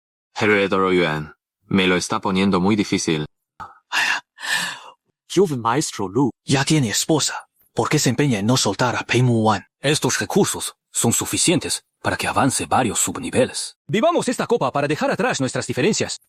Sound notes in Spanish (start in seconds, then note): 3.6 Suspiro